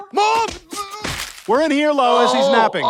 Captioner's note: struggling noises